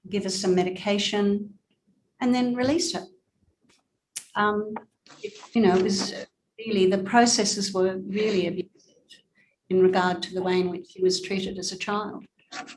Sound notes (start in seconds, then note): 8.4 audio distorted